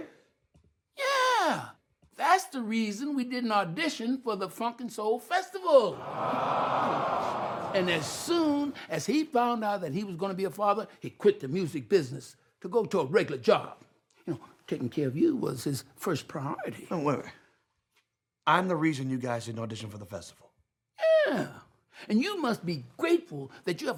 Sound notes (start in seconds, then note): 5.8 audience awwing